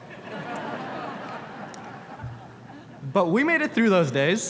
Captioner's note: audience laughs